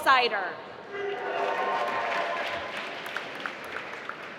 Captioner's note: applause